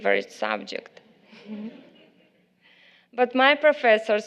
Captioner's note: laughter from the crowd